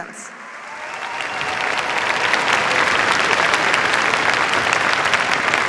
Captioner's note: cheers, applause